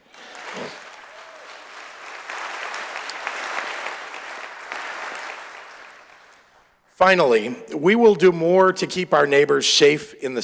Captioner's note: applause